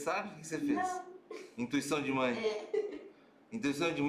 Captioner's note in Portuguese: risos